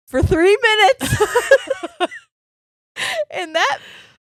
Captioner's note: laughing quietly